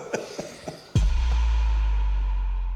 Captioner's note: laughing; upbeat music